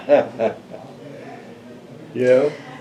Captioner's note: laughs